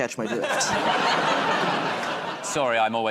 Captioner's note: laughter